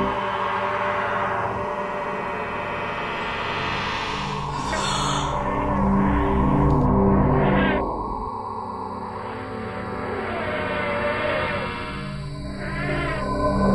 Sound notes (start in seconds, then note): 4.5 unearthly sounds of creature; 4.6 gasp; 9.4 wailing creature